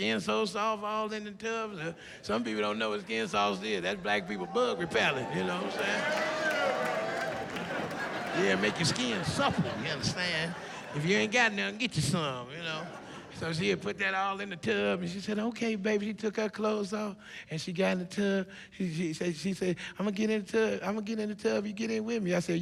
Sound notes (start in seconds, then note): 8.2 cheering